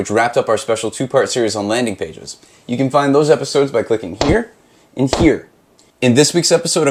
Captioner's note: bam